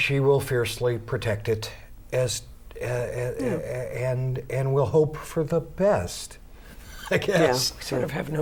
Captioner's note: laughs